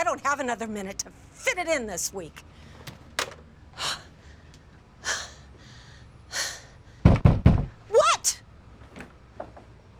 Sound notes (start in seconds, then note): 2.9 phone slams down; 3.8 Kate sighing; 7.2 pounding on door